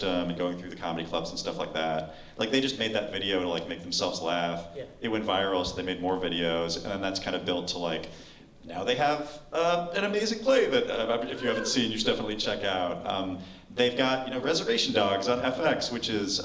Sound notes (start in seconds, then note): none